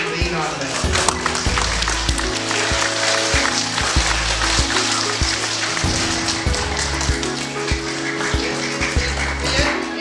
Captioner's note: applause